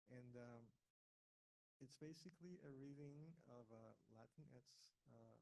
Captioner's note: none